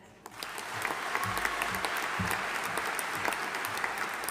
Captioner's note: audience applauding